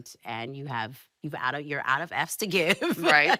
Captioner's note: laughing